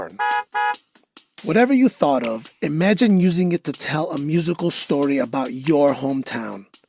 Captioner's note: car horn honks